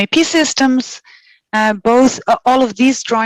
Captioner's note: non-english speech